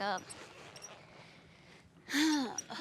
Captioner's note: sighs